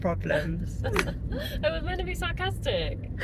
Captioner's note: laughter